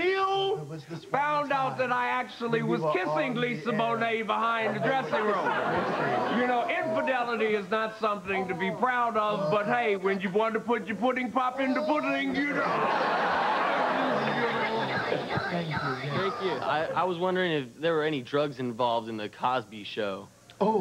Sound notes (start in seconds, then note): 14.2 high-pitched squeals